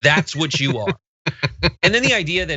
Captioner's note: laugh